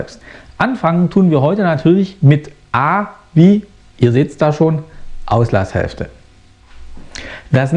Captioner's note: in german